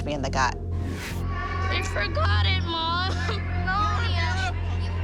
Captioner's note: crying